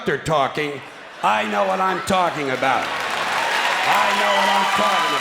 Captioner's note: clapping and cheering